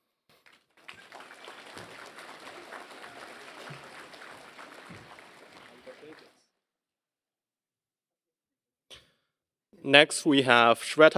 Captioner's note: applause